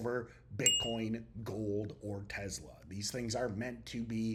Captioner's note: bell ringing